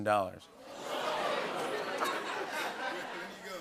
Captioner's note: audience ohhs